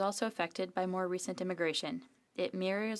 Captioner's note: speaking French